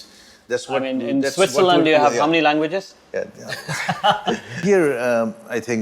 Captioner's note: laughing